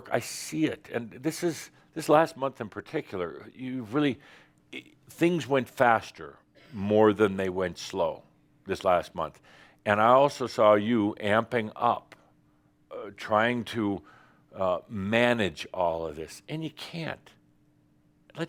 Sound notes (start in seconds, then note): none